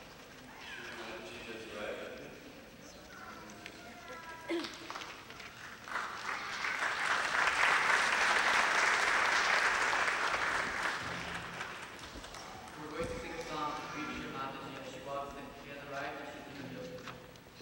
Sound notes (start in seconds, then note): 6.4 clapping